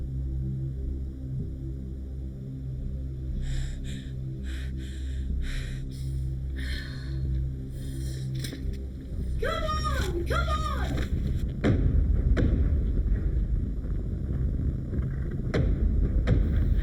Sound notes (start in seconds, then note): 3.4 Gina panting; 8.3 foot stomps; 11.6 ground rumbling; 11.6 suspenseful music